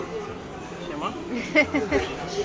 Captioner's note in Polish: śmiech